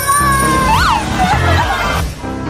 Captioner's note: laughs